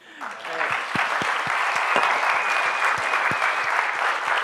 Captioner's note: audience applauding